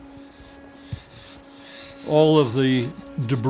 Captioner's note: saw swishing